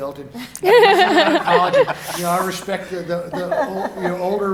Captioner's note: laughing